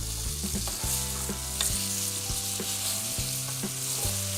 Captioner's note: beef sizzles